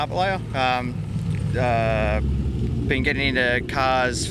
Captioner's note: car engine revving